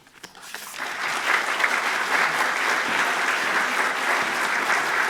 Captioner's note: audience applauding